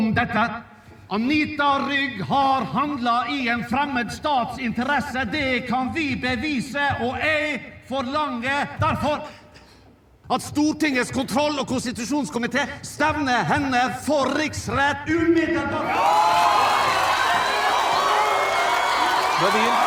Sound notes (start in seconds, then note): 15.8 crowd cheering